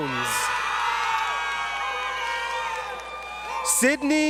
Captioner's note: crowd Cheering